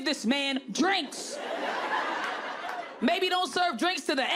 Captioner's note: audience laughing